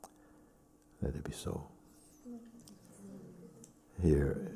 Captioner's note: voices in group